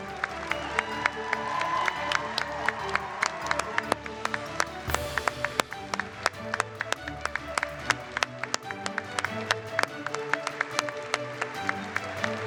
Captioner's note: cheers and applause